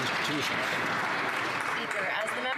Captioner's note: some Applause